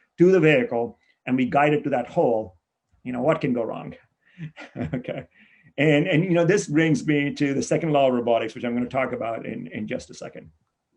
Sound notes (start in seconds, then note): 4.3 chuckles